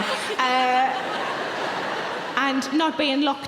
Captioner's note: audience laughing